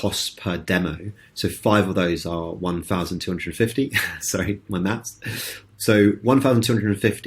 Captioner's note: laughs